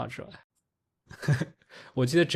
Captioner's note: laughs